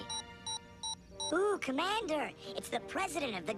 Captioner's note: beeping